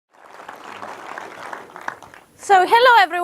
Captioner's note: audience applauding